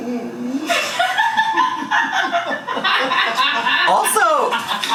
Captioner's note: laughing